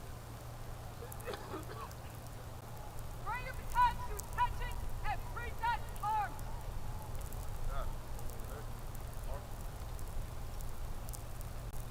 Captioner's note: shouted commands